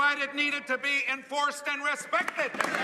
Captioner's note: applause